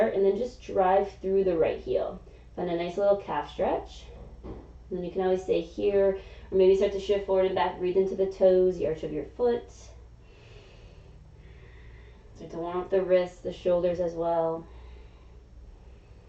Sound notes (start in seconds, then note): 10.2 exhaling; 10.2 inhaling